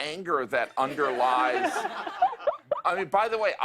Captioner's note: laughter